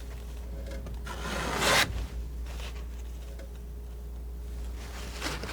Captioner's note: scratching